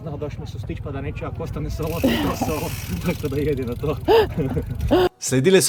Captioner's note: laughter